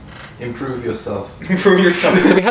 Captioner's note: laughs